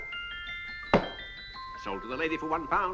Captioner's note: gavel thuds